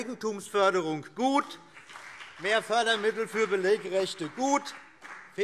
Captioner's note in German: Beifall BÜNDNIS 90/DIE GRÜNEN